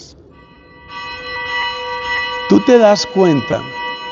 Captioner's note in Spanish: campana